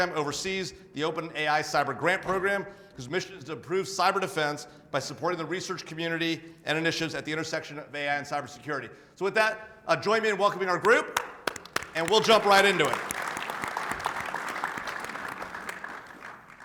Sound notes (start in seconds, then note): 11.1 attendees clapping